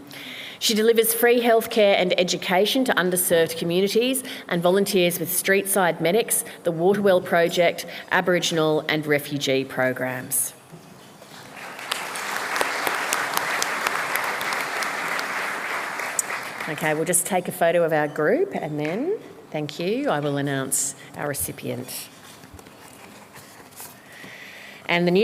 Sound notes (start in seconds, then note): 15.3 applause